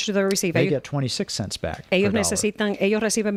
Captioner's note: Hablando ingl\s